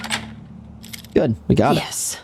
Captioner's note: camera clicks